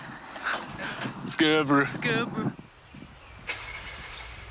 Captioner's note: northern accent impressions